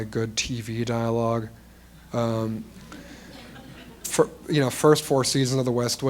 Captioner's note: laughter